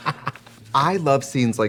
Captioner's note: Katya giggles